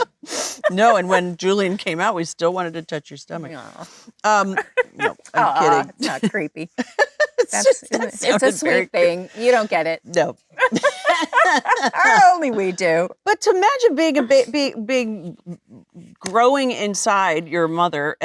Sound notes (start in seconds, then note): 6.7 Jennifer laughing; 10.5 Jennifer and Lisa laughing